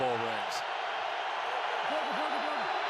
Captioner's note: cheering